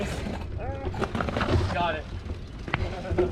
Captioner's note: yells